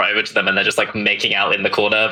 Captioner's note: laughs